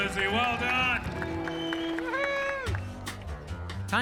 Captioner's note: cheers and applause